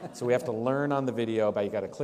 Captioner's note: laughter